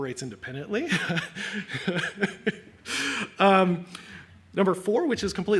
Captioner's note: laughs